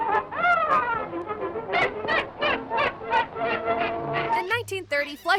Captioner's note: laughing; playful music